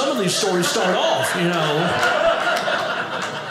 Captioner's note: audience laughing